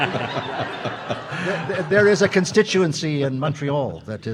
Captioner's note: audience laughing